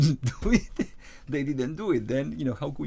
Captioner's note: laughs